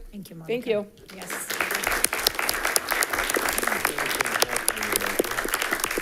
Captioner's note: generous applause rings